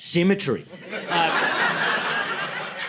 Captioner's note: laughter